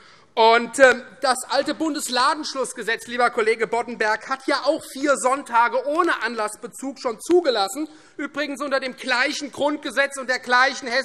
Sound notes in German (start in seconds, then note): none